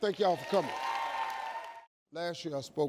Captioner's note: audience cheers